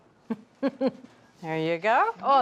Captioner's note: laughs